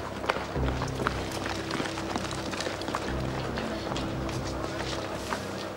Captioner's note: soft tense music; footsteps thudding